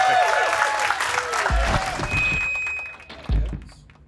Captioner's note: crowd cheering